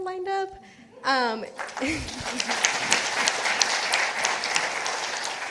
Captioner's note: participants applauding